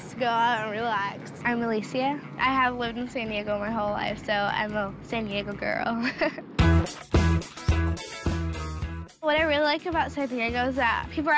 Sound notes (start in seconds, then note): 6.0 laughs